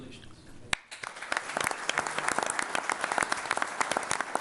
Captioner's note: all applauding